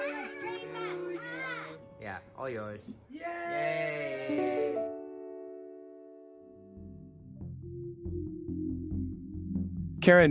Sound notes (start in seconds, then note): 3.1 cheers